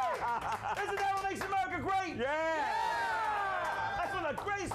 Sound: audience cheers; audience cheering

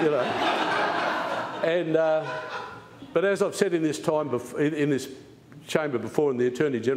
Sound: laughter

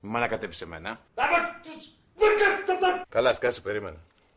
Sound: inarticulate yelling

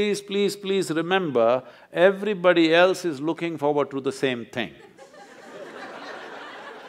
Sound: laughter

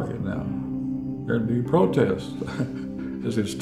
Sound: laughs

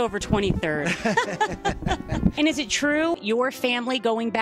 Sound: laughter

